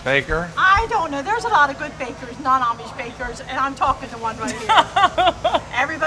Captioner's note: laughs